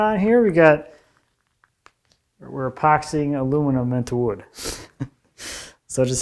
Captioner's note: laughing